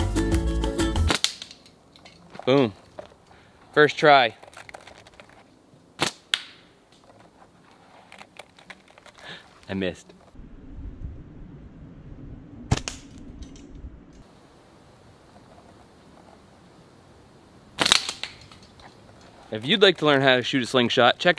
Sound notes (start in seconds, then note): 1.0 twig twanging; 6.1 loud thapping; 12.7 loud clanking; 17.8 loud clanking